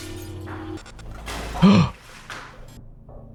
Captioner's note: glass breaking; gasp